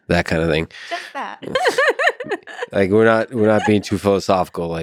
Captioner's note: laughs